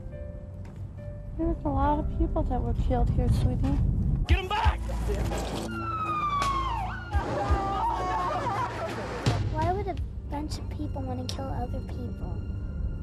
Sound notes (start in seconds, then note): 5.7 sirens; 5.8 screaming